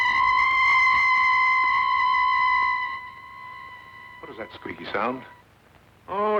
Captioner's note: screeching